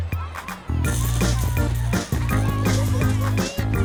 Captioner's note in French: bavardage indistinct